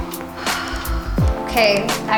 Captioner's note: sighs contentedly